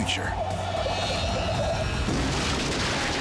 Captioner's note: tires screeching; metal crashing